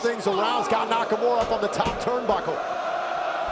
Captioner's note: crowd cheering